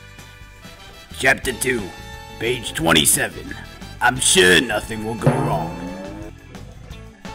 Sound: boing sound

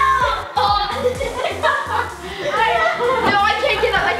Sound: laughter

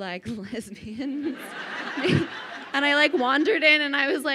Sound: crowd laughing

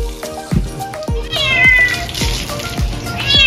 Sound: Meowi Meowing

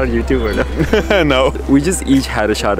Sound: laughs

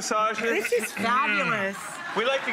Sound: audience laughs

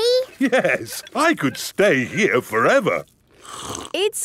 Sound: slurps

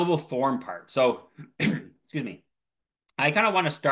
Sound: clears throat

